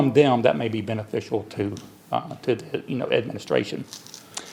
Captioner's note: none